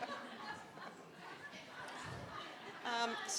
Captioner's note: audience laughing